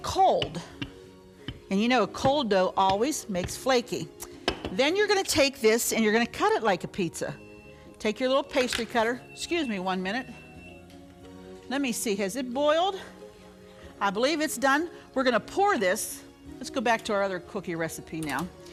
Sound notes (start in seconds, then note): 9.0 alarm beeping